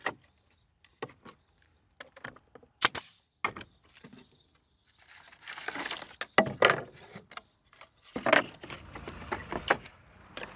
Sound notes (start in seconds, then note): 2.8 pneumatic nailer hisses